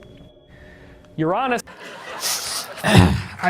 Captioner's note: sniffing